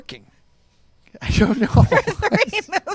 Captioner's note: both laugh